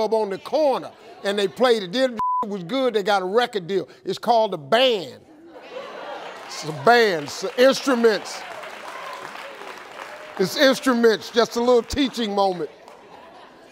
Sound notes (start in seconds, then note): 8.0 crowd cheering